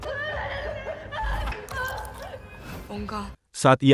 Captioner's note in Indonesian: menangis